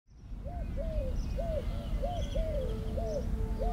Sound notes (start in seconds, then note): 0.4 bird hooting